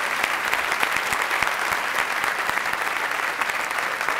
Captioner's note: applause